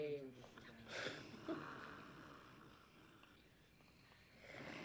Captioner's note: snoring